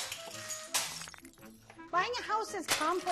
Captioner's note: glass breaking